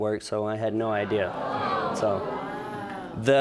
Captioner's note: audience groans